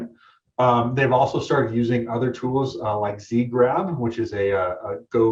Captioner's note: murmurs